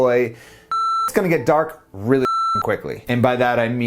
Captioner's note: beep